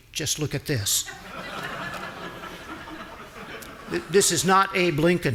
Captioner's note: audience laughing